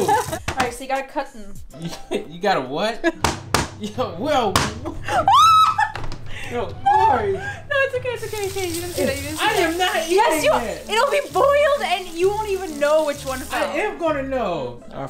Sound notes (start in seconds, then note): 3.2 potato slamming; 5.2 screaming